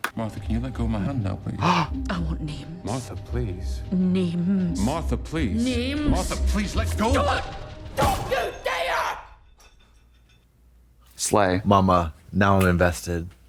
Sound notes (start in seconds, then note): 1.5 Trixie gasps